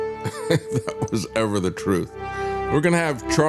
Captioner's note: laugh